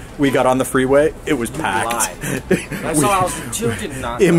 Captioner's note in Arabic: يضحك